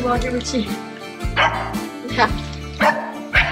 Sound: bark

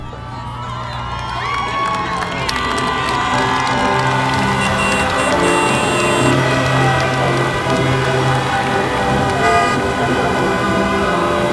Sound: cheers and Applause

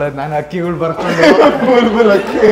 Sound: laughing

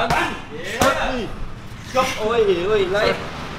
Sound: none

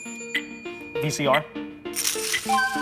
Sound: bell dings

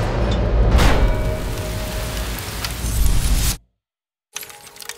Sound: sound of rain; sound of shattering glass

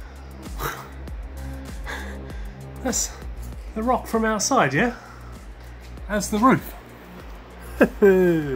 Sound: laughs

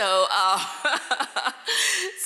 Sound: laughing

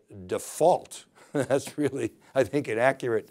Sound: laughing

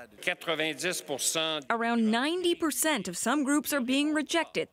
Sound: speaking French

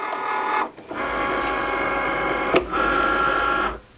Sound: machine buzzing

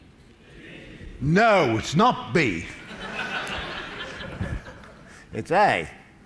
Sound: laughter

